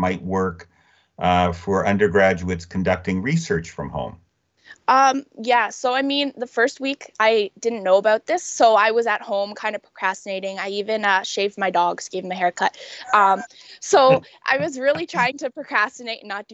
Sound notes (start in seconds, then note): 12.7 chuckling